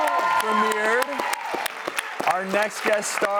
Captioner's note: audience cheering and applauding